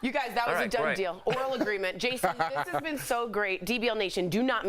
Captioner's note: laughter